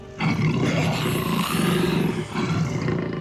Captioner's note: roars